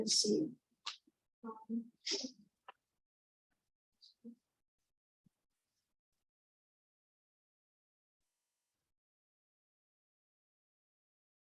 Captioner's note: silence